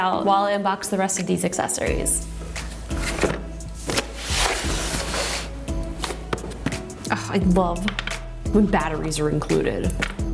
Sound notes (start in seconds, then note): 2.4 mellow music; 3.7 cardboard scratching on desk